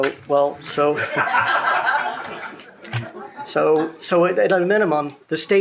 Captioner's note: people laughing